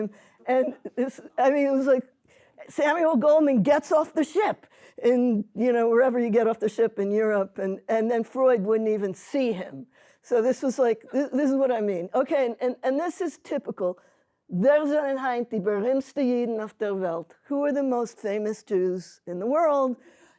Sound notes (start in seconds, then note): 14.3 speaking hebrew